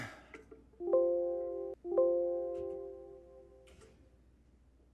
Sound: computer chimes

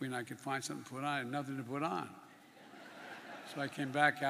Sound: laughter

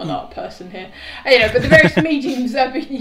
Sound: laughing

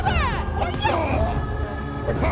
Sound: choking

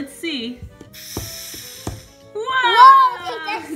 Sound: air blowing

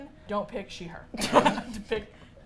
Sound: both laugh

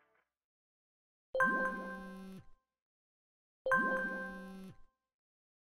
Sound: phone alerting

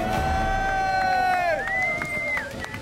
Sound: cheers, applause, whistles

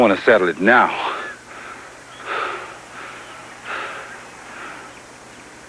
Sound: panting

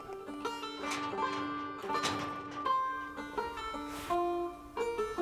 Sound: metal fence rattling

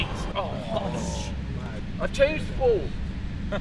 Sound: booing

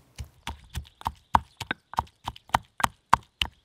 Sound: pounding

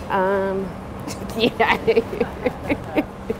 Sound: laughs

